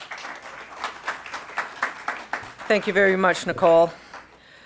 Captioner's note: applause